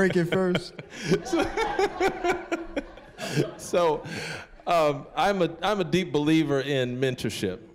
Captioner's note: laughing